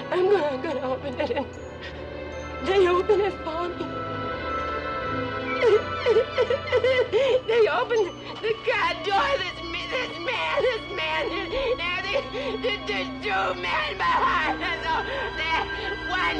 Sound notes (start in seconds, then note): 4.8 tense music; 5.4 Betty weeps